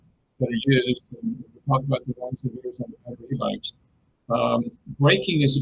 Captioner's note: distortion muffles speaker